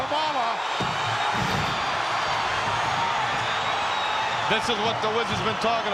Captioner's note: audience cheering